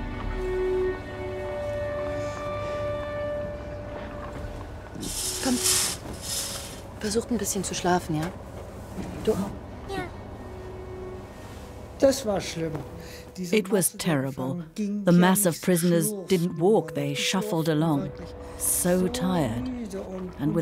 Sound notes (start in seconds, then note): 0.0 solemn music; 0.8 speaks in foreign language